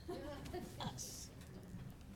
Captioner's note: laughing